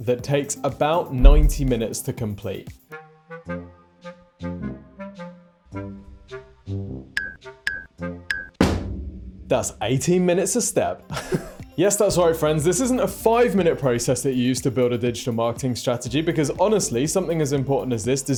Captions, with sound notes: that takes about 90 minutes to complete. (instrumental music) That's 18 minutes a step. (laughing) Yes, that's right, friends. This isn't a five-minute process that you use to build a digital marketing strategy, because honestly, something as important as this